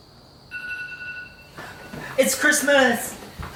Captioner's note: alarm beeping